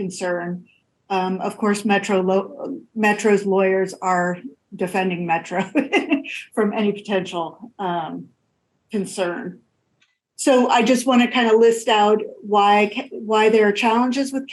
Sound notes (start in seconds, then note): 5.4 laughs